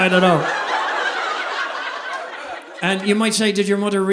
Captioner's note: audience laughing